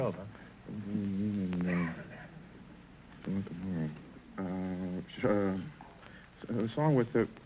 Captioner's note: whispering